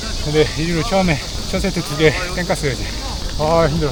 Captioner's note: laughs